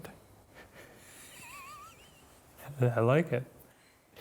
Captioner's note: laughing